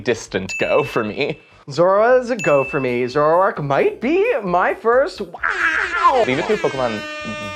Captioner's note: attempting WOH OH OH OH noise